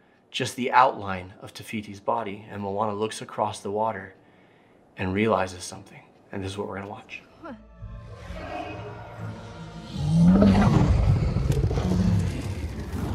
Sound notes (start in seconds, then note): 7.4 dramatic music; 9.2 Ka roaring